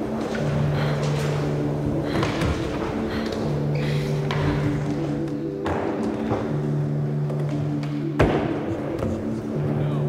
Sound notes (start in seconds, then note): 1.2 panting; 4.6 sentimental music